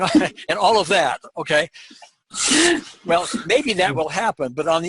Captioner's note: laughing